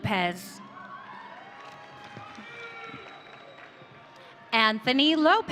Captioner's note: audience cheering